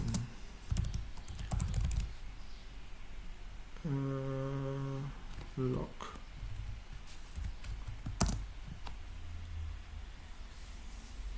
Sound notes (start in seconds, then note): 7.3 typing noise